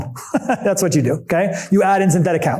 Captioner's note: chuckles